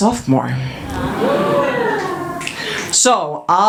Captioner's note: audience cheers